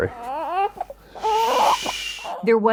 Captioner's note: crying